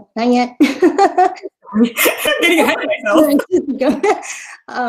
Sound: laughing

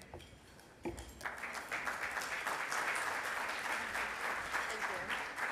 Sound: audience applauds

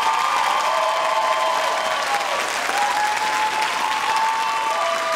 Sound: audience cheering and clapping

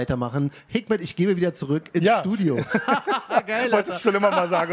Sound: laughter

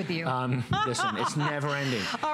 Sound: laughter

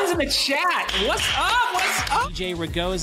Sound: clapping

